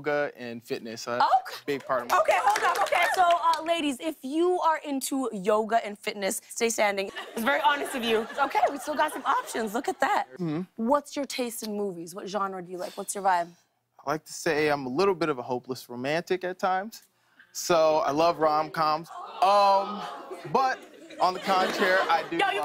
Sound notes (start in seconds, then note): 19.1 audience awws